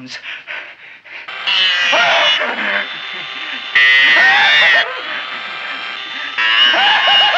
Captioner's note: drill whirring; Wilbur laughing